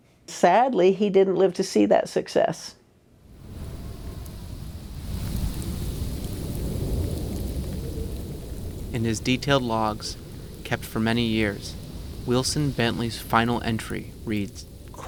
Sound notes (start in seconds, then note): 4.6 snow pattering; 4.6 wind whooshing